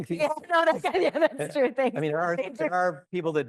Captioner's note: laughs